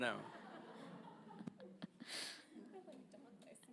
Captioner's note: audience laughs